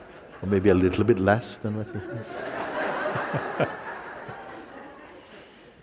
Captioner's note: laughter; laughter